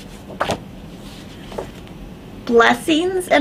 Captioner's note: pages flutter